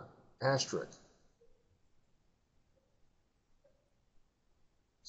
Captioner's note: silence